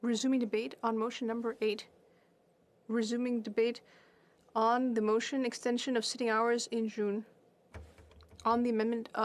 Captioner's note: speaking French